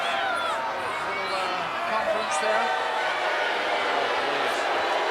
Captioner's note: crowd clamoring